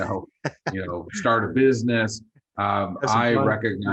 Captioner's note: laughs